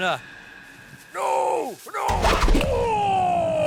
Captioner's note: grunts